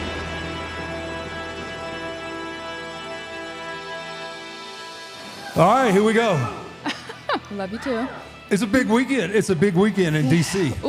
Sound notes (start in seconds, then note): 5.4 laughs